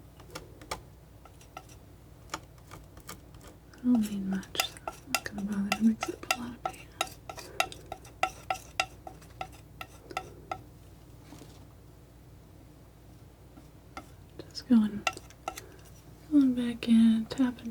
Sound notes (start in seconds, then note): 7.3 tapping